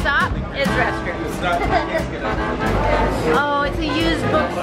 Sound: laughing

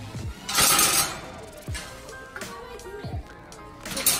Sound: crashing

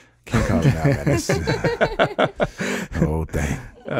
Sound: laughing

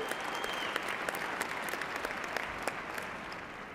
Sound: applause

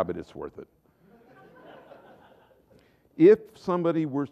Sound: laughter

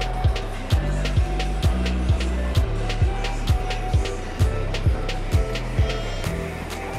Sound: train approaching station

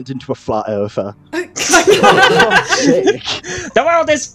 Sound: laughter

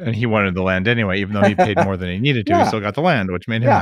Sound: laughs

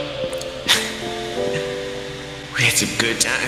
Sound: intercom static; more tears

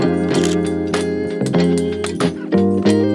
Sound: camera shutter clicks

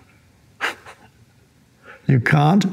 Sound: Eckhart laughing

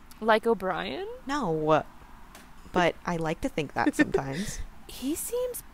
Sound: LIZA laughs

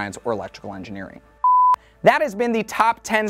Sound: beep

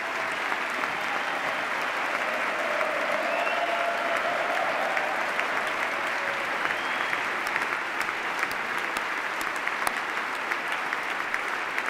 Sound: extended cheers and applause

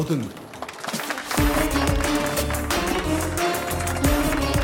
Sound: applause

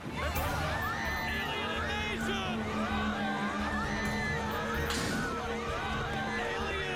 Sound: ferry creaking; passengers scrmingea

